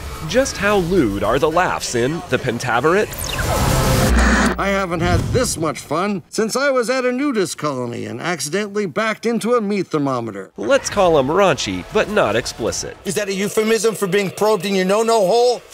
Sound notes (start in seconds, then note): 3.0 radio static noise